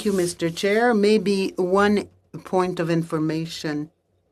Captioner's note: speaking French